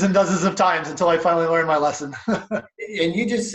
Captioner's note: laughs